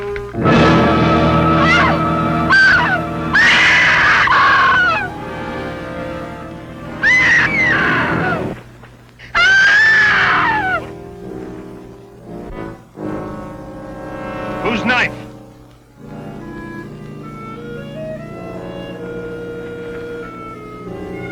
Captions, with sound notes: (dramatic music) (Hazel screaming) - Whose knife? (dramatic music)